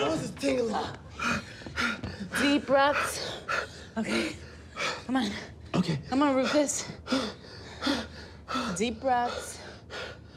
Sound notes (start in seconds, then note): 1.2 Rufus panting; 1.2 panting